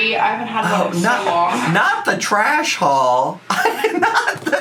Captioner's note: laughs